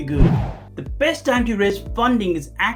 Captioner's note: air swooshing